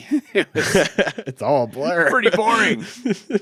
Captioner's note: chuckles